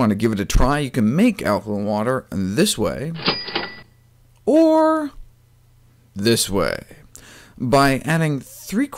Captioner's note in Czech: cink cink